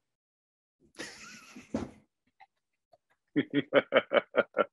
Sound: laughing

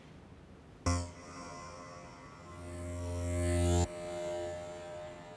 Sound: sudden electronic sound

